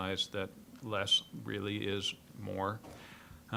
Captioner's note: none